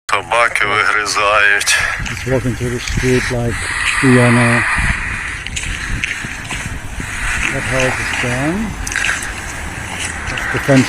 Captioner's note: foreign language